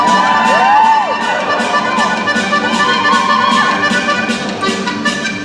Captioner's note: cheering